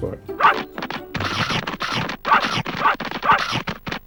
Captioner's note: dogs barking